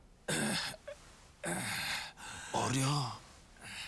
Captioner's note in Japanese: 咳払い